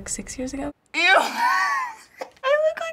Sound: giggling

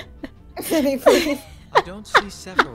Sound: laughing

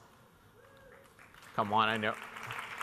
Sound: audience clapping

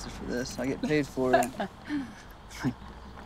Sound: laughs

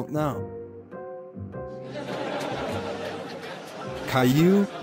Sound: class laughing

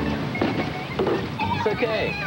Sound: thunk of coconuts hitting car; kids yelling as they jump on car

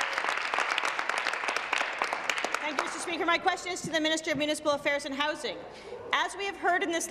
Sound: applause

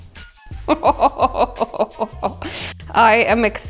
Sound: chuckling

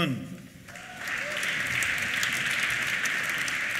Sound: applause; cheers

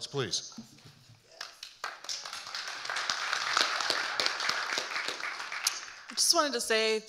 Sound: audience applauding

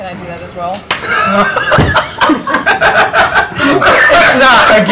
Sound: laughter

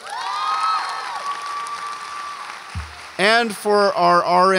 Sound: audience applauds and cheers

